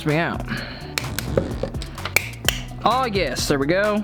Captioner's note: wire cutters snipping